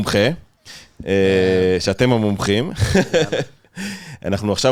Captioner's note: laugh